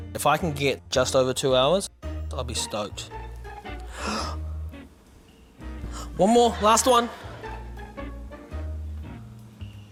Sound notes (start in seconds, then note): 3.8 gasps